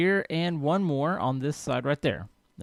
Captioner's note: none